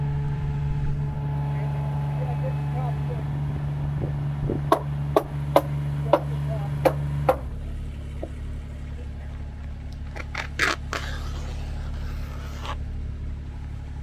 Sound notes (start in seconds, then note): 4.9 hammer banging and machine engine rumbling; 10.2 cloth tearing